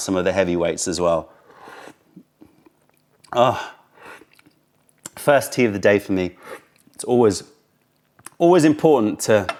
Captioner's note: sips tea